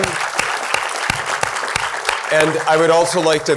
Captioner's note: applause